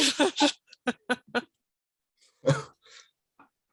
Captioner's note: all laughing